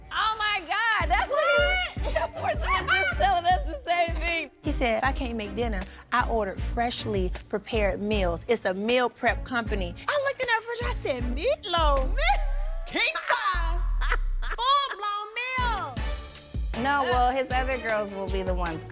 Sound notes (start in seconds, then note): 12.1 laughing